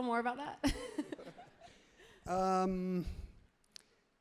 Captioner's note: crowd and laughs happily